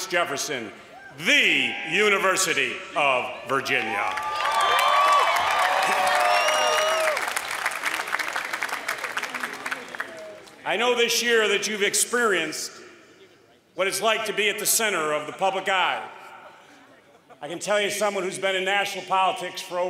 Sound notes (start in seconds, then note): 3.8 applause